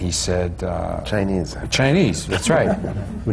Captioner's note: laughter